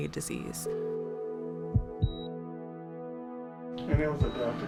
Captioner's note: beeping machines